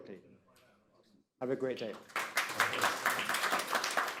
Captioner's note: applause